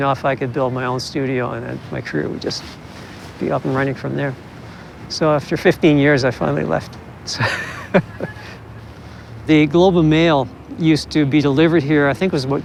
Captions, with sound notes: AND WEALTHY ENOUGH I COULD BUILD MY OWN STUDIO AND MY CAREER WOULD BE JUST UP AND RUNNING FROM THERE. SO AFTER 15 YEARS, I FINALLY LEFT. (CHUCKLES) THE GLOBE AND MAIL USED TO BE DELIVERED HERE,